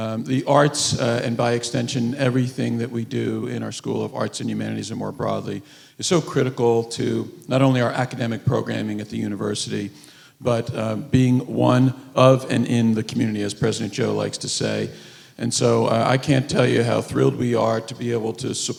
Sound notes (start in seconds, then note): none